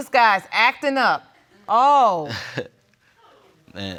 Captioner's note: chuckles